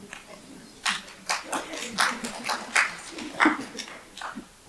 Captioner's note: audience applauds